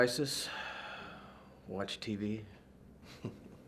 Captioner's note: exhales; chuckles